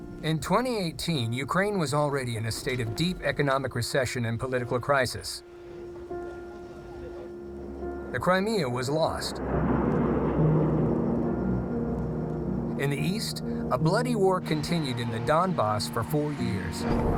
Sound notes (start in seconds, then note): 9.1 fighter jets roaring